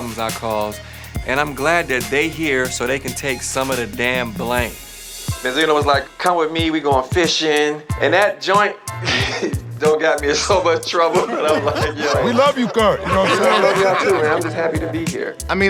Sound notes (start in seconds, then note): 10.8 laughing; 13.1 crowd laughing